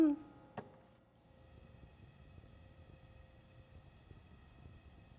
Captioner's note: sizzling